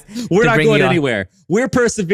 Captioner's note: laughs